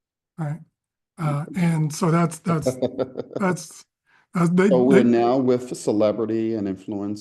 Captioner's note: laugh